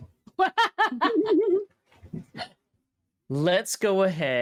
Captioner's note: players laughing